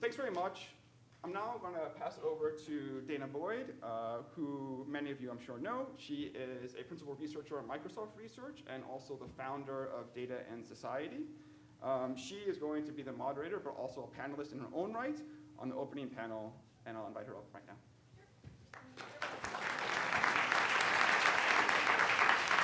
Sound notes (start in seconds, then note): 16.8 speaking faintly; 18.7 audience applauding